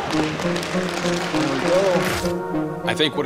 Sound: cheering

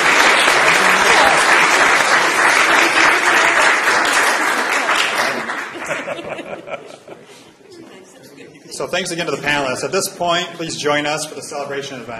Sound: applause

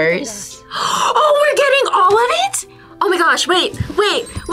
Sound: gasps

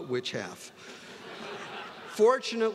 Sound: students laughing

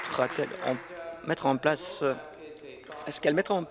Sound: applause

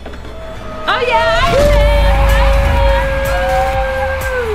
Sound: crowd cheering

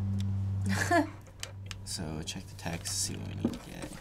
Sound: laughs

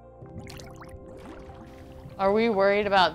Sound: water sloshing

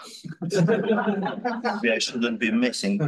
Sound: students laughing

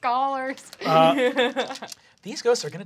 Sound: laughs

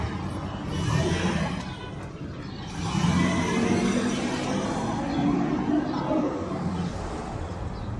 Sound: engine starting; revving car engine

